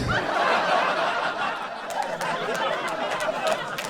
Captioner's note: audience laughs